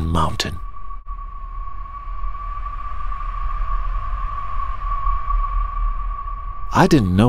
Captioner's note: frosty wind sound